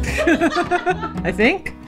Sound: laughs

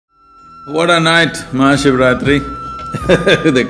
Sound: laughs

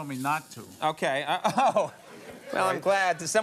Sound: laughs

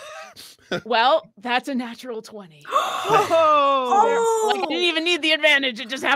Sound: laughs; gasps

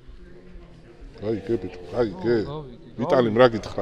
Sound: in Georgian

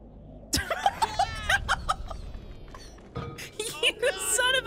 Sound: laughing

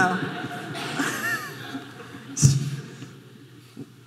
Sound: audience laughing

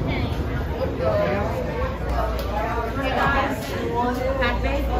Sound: patrons chattering

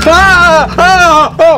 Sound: scream

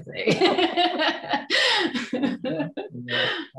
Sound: laughs

